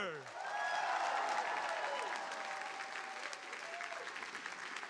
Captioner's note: audience applauding